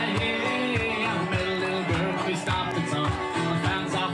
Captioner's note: applause